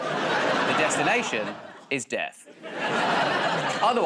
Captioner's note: laughter